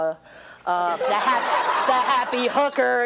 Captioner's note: audience laughs